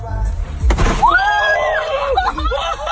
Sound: balloon pops; both laughing

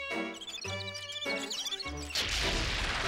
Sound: mice squeaking; crashing

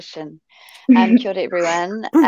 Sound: speaks maori

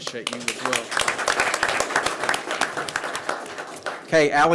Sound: attendees applauding

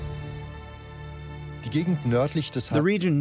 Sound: speaking German

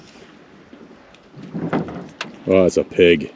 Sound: fish splashing

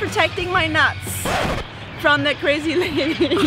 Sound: record scratch

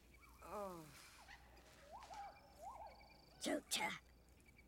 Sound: Speaking Ewokese

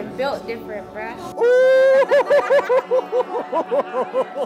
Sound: laughing

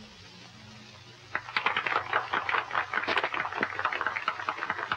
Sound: applause

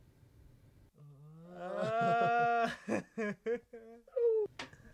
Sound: both laughing

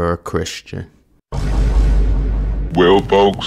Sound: echo percussion boom

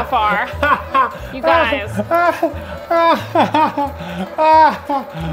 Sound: laughing

